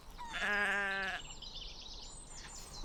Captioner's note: goat bleating